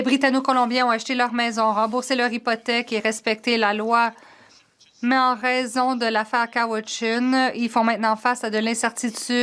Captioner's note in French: voix de l'interprète